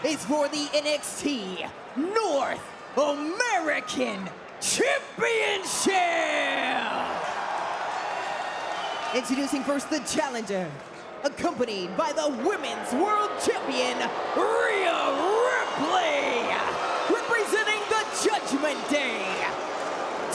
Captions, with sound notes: is for the NXT North American Championship! (crowd cheers) Introducing first the challenger. Accompanied by the Women's World Champion, Rhea Ripley! Representing The Judgment Day, Dominik Mysterio!